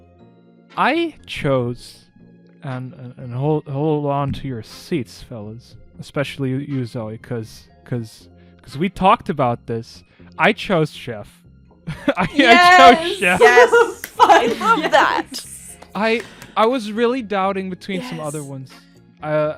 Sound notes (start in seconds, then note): 12.0 laughs; 12.3 clapping